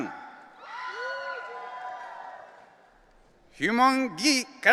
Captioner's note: audience cheering